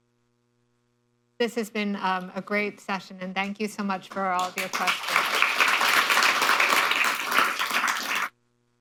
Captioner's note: applause